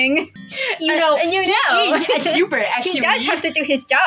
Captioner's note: laugh; nerdy Voice